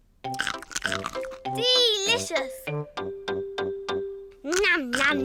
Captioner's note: crunches